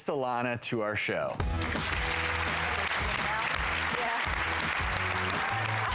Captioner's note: music and applause